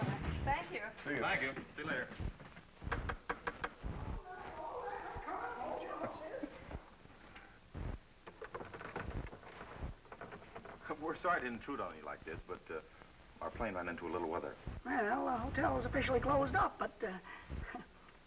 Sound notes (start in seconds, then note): 2.7 knocks on the door